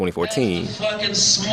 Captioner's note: soundbtie of archived recording